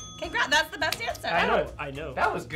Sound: bell dings

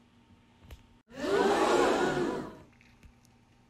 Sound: crowd

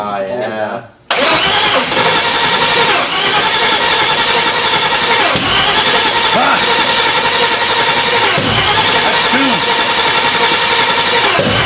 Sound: engine turns over

